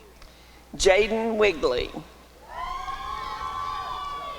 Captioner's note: applause and cheering